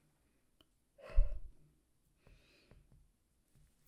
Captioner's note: Hana exhales